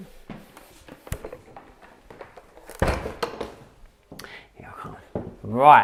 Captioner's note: panel clunking